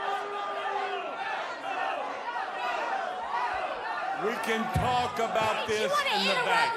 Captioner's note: crowd chatter